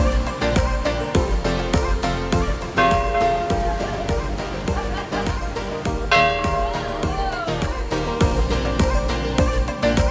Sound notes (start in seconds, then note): 2.7 bell ringing